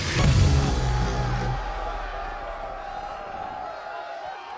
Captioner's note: cheering